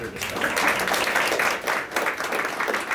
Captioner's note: applause